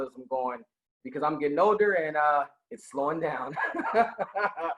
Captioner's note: laughing